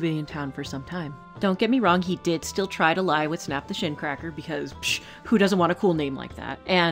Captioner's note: scoffs